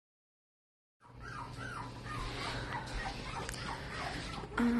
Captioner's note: puppies whimpering